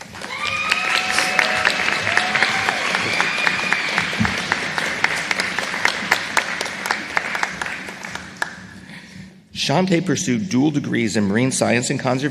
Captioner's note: applause